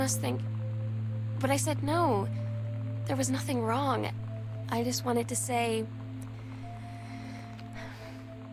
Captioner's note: shuddering Breath